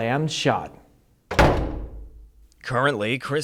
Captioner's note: door slams